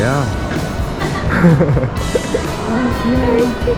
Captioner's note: laughing